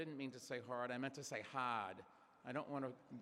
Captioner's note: imitating kennedy